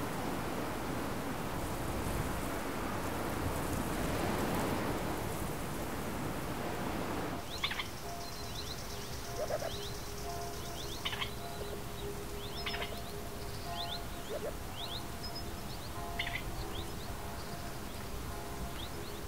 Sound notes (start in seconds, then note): 7.3 birds and distant churchbells